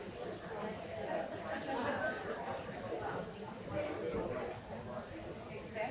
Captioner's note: people chattering continues